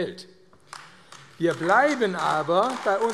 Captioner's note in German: Beifall AfD